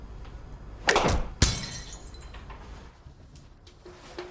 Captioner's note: glass smashes